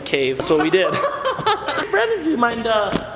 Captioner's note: laughs